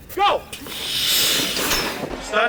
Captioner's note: wires whir loudly